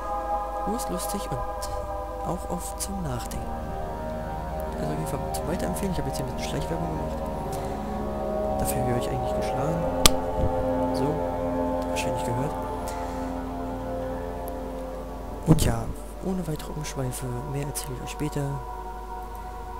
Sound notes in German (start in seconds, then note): 10.0 klatsch